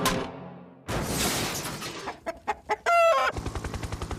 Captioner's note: glass shattering, chicken clucking